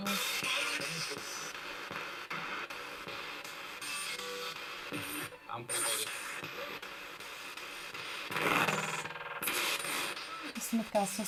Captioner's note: sound of the Spirit Box in the background